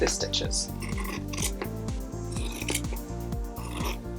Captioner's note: scissors cutting